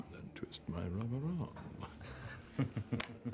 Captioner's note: chuckles